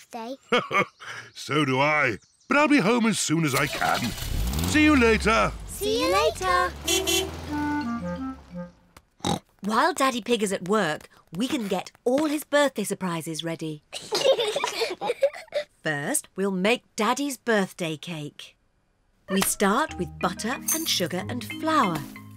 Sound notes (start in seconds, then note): 0.4 chuckles; 6.0 car horn toots; 9.2 oinks; 13.9 both giggle